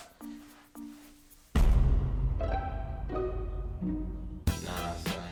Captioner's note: explosion; comical music; upbeat music